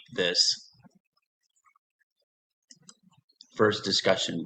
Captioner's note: silence